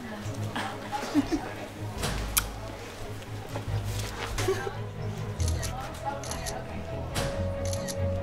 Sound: students talking

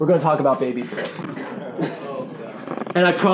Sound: groaning

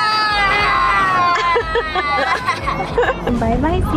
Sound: laughs

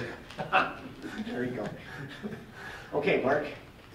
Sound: laughing

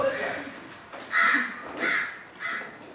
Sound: crows caw

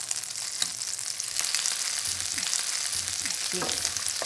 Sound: sizzling

